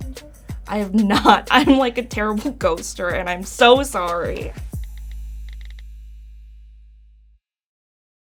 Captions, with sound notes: - I have not. (laughs) I'm like, a terrible ghoster, and I'm so sorry. (texting sounds)